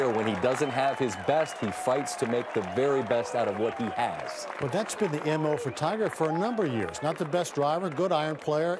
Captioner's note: cheers and applause